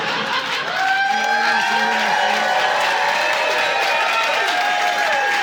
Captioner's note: audience laughing; audience cheering